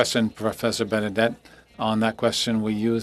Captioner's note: speaking French